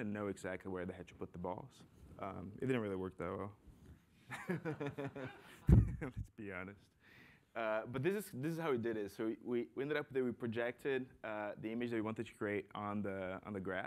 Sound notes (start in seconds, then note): 3.9 laughs; 4.3 laughter